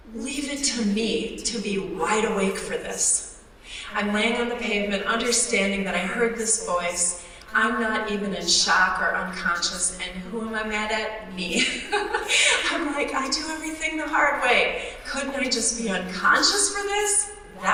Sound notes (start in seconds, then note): 11.5 laughs